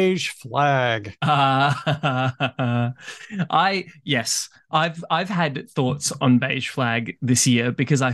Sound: laughs

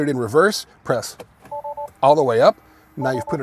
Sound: car beeps

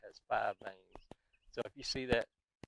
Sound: birds twittering distantly

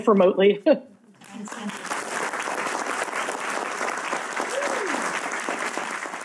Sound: audience clapping hands

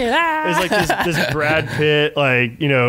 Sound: laughing

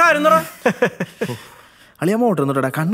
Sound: laughter

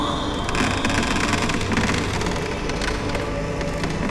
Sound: door creaks

